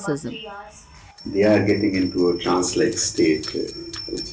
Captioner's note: bells jingling